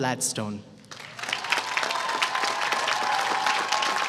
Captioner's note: applause